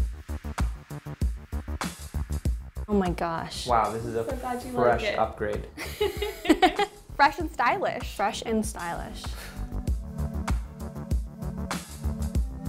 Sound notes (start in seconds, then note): 5.8 chuckling; 9.8 lively music